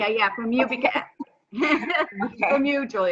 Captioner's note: laughs